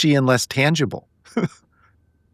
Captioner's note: laughing